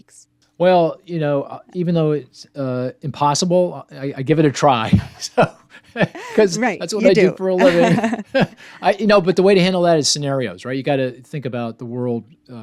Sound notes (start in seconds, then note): 5.7 laughs; 7.5 laughing